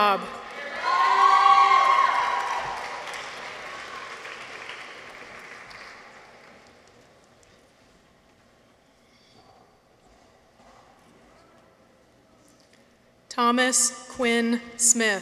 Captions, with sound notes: -(people cheer) -(audience applauds) Thomas Quinn Smith.